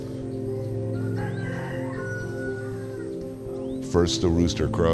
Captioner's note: rooster crows